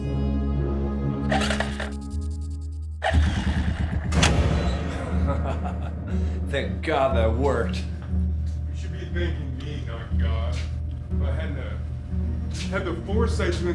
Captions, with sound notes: (electricity sizzles) (generator cranking) - (laughing) Thank God that worked. - You should be thanking me, not God. If I hadn't had the foresight